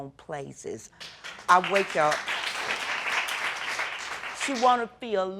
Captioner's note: audience applauds